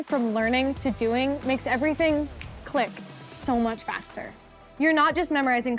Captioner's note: snaps